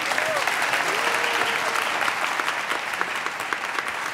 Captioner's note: applause